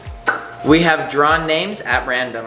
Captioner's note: pop